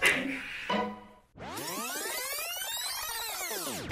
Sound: rewind SFX

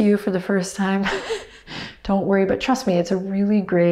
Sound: laughs

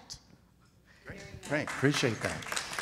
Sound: audience claps

